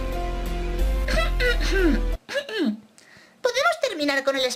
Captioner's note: clears throat